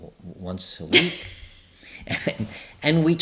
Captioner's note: laughs